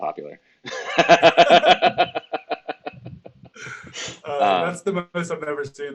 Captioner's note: laughing